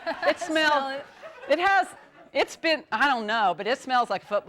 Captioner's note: �laughing�